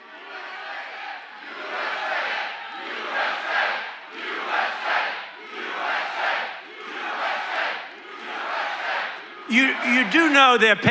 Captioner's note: audience chants "USA"